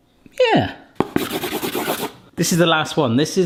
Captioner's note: pen scratching